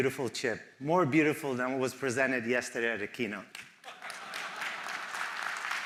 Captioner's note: applause